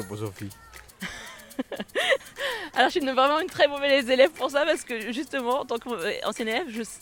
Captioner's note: laughs